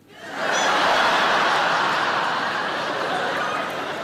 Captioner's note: audience laughing